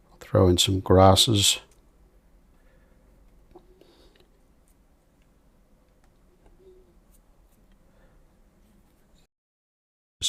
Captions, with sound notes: I'll throw in some grasses. [silence]